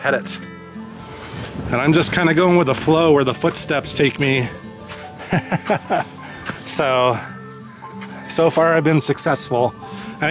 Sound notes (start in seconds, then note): 5.2 laughter